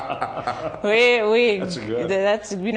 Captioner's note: laughing